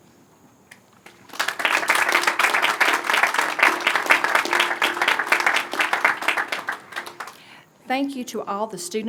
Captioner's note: applause